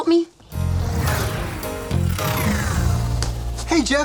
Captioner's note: electronic swoosh